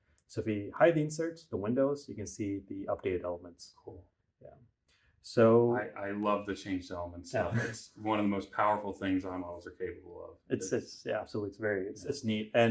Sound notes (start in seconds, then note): 7.4 laughs